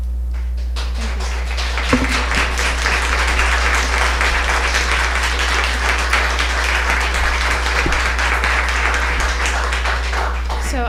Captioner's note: applause